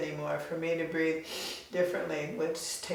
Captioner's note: inhales loudly